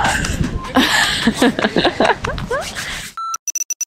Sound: laughter

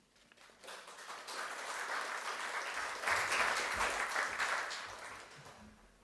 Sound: applause

